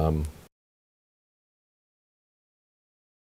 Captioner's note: silence